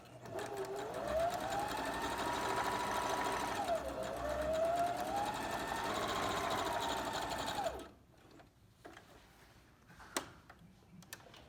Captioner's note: sewing machine hums